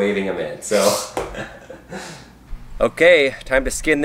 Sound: laughter

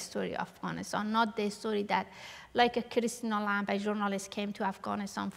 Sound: non-english

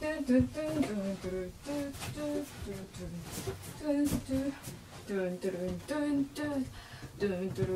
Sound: continues humming

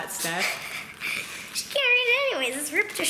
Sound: laughs

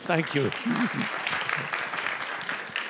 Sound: applause

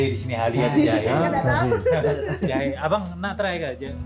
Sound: laugh

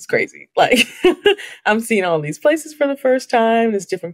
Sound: laughs

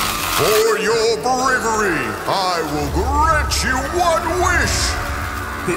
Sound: shrieking continues; shrieking continues

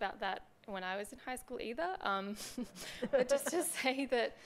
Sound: chuckles

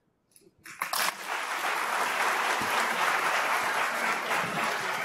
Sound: applause

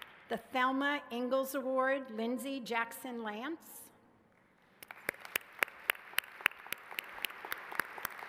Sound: applause

